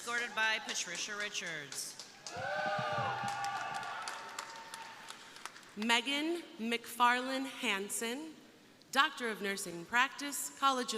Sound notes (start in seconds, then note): 2.0 crowd applauding; 2.1 crowd cheering